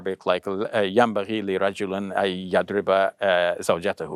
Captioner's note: speaks Arabic